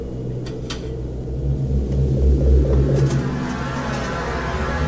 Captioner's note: object clattering